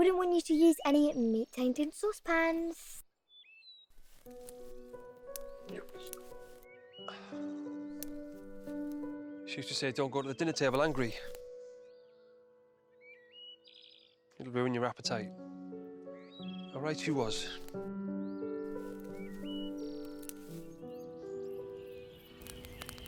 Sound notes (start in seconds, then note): 4.6 gentle orchestral music; 7.0 Jim sighing; 20.8 gentle orchestral music continues